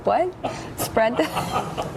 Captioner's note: laughing